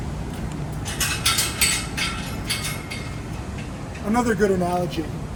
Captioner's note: gate rattling